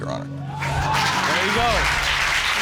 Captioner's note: audience applauding, cheering